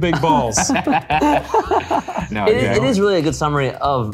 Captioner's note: all laughing